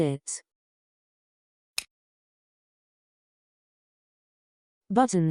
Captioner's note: click